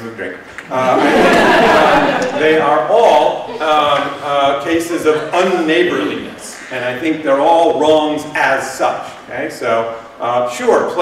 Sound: laughter

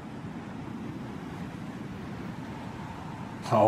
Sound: windy Sounds

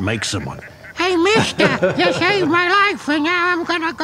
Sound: imitates child voice

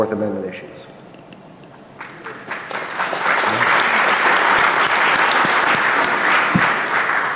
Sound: applause

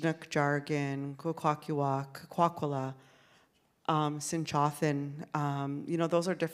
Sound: speaks in Sk1wx1wu7mesh

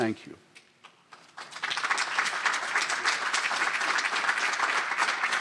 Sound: applause

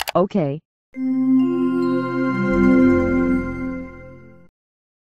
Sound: Microsoft Windows 98 Shutdown Sound Plays

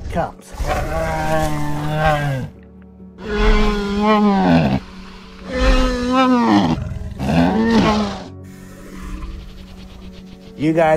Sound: bumpy sounds

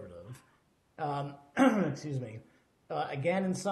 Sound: clears throat

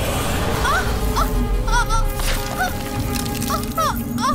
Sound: groans

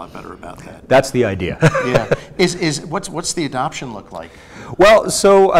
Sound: laughs

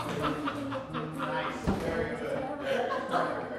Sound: laughter

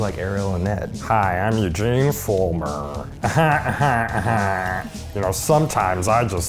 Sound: fake laughs

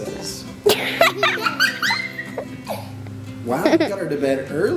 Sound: laughs

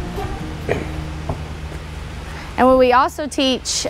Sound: feet thud

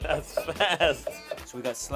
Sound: laughs

